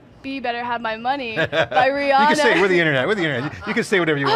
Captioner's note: laughs